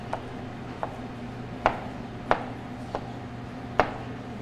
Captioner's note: knife cutting